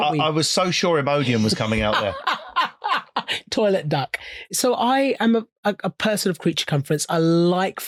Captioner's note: laughing